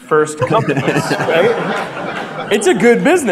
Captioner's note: audience laughter